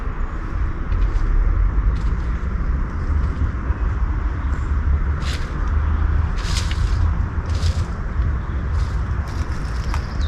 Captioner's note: unknown movement in bushes